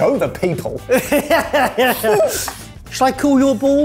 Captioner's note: laughing